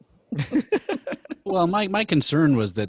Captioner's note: chuckling